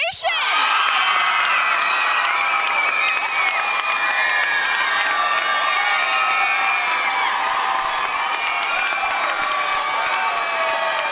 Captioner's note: cheering and applause